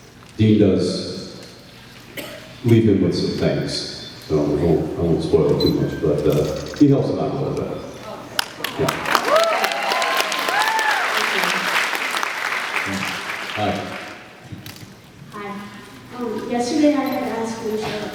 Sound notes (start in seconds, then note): 8.6 cheers, applauds; 11.6 applauds